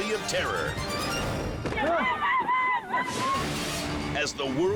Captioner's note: spectators screaming